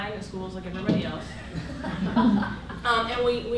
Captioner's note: laughter